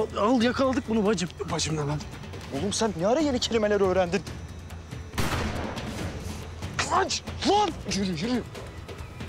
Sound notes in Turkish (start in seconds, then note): 5.1 Silah Sesi